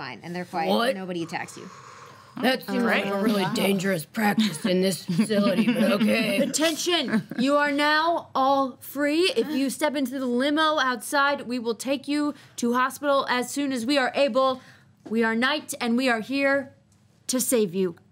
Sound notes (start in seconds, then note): 4.4 laughs